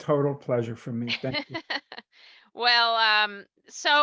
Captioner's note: laughing